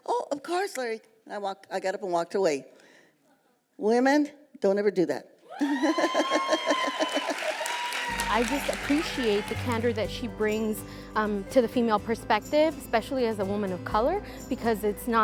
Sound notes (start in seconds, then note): 5.6 laughing; 7.0 crowd cheering